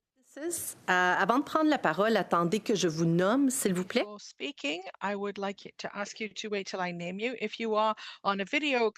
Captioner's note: speaking French